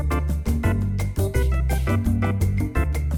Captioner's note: none